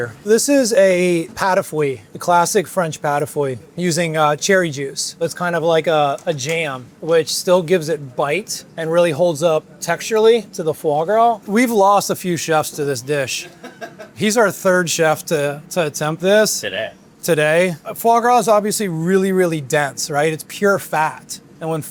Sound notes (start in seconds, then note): 13.3 chef laughing